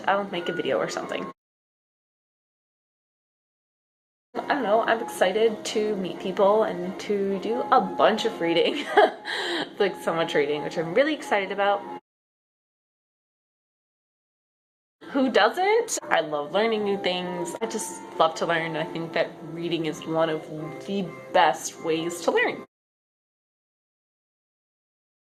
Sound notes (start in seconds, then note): 8.8 awkward laugh